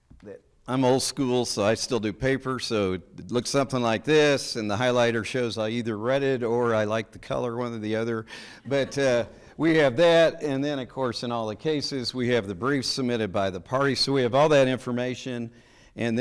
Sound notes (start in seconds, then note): 8.4 people chuckling